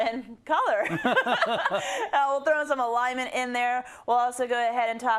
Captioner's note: laugh